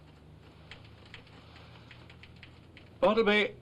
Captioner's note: typewriter chattering